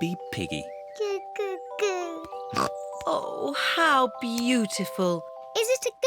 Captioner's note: snorts